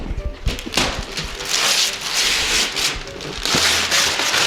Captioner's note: paper ripping